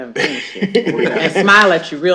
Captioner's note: laughter